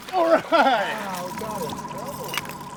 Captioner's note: fish splashing